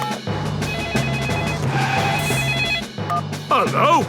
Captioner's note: phone ringing; beeping